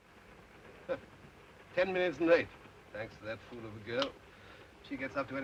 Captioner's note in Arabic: يسخر